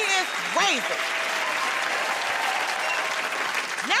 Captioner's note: cheers and applause